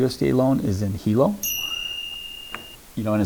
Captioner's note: light bell sound